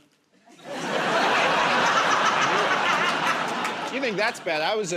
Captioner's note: laughter